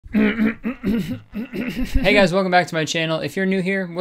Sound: clears throat

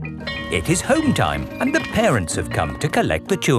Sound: bell tolling

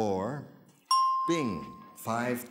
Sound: bell dings

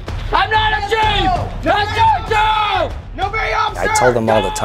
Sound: yelling

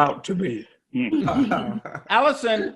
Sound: everyone laughing

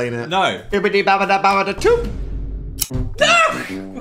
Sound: Dan speaks gibberish

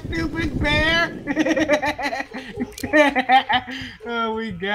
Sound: victorious laughter

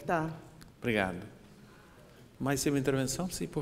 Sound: speaking portuguese

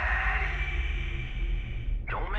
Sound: distant voice

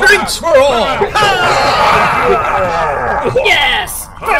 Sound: Klingon cheers

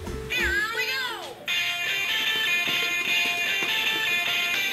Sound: Hot Potato game sound effects

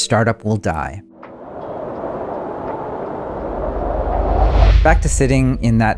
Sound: wind blowing

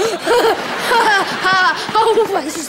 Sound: chuckling

